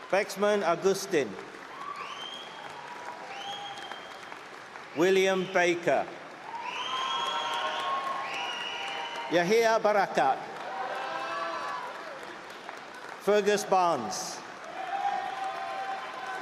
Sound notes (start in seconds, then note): 4.4 applause; 6.3 cheering; 16.2 applause